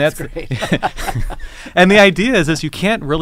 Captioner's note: laugh